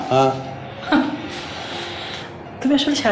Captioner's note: Tania chuckles